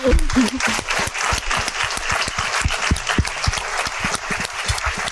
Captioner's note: audience applauding